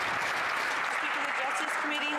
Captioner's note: some Applause